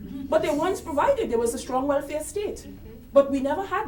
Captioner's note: background chuckles